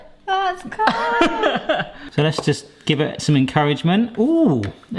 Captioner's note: laughs